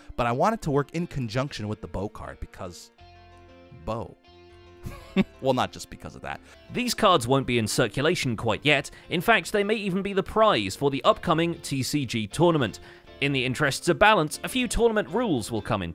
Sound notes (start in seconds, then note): 4.8 chuckles